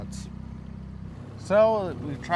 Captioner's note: boat engine idling